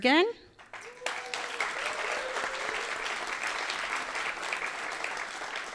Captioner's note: audience cheering and applauding